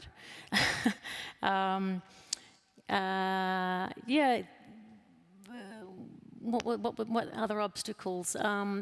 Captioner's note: laughs